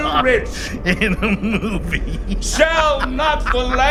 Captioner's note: laughing